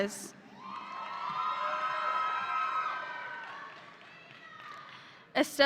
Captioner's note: audience applauding